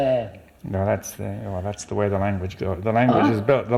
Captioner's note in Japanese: ヘブライ語